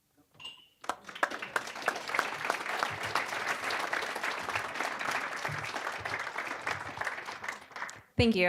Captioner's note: applause